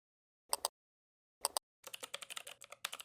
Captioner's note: mouse clicks; keyboard typing